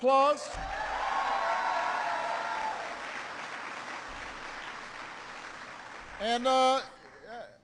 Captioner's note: applause